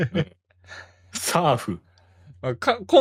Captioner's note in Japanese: 笑い